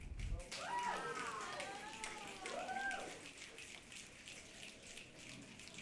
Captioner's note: audience clapping and cheering